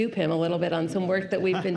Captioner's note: laughs